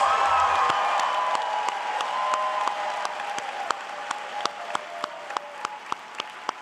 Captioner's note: applause